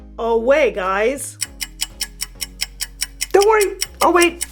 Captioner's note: clock ticks